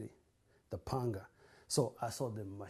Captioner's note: non-english